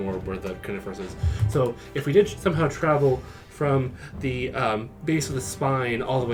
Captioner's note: back to Reese voice